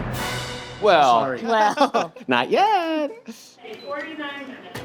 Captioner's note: laughs